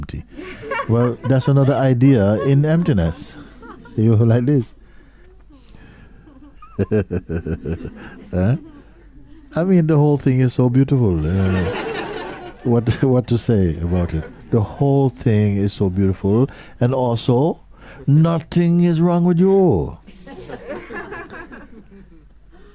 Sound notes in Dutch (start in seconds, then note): 6.2 gelach; 11.3 gelach; 20.1 gelach